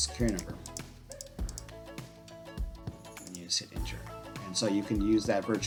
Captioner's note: mouse clicks